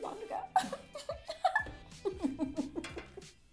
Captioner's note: giggles